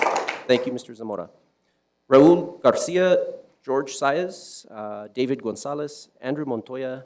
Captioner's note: applause